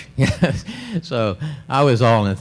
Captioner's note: laughs